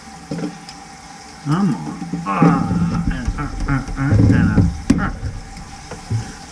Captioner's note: makes sounds effect